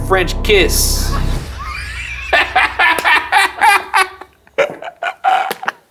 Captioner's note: laughing